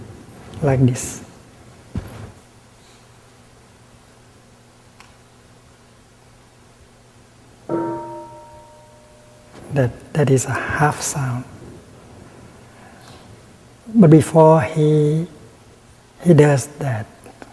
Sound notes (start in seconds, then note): 7.7 bell rings